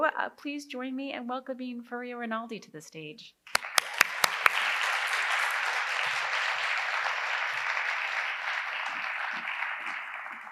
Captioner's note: audience applause